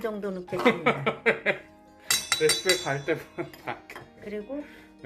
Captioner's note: laughs